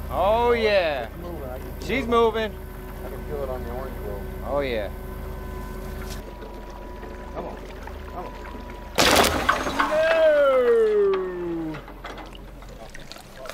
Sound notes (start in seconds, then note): 9.0 water splashes violently